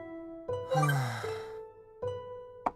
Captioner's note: sigh